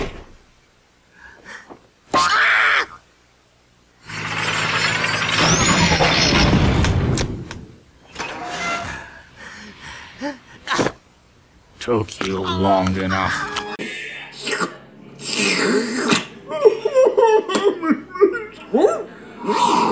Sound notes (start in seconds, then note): 14.7 sexy slurping sounds; 16.6 markimoo cries